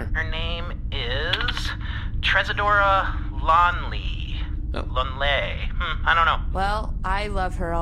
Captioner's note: hesitantly